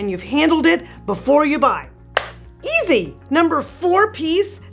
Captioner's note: claps